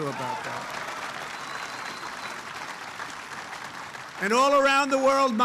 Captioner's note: applause